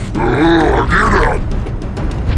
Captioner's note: growling